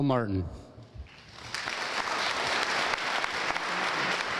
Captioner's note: audience applauding